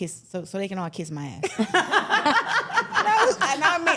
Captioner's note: everyone laughing